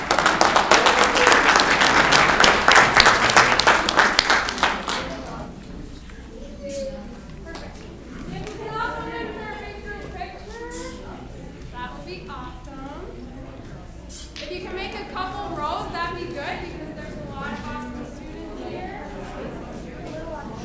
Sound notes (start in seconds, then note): 0.0 audience clapping; 5.6 crowd chattering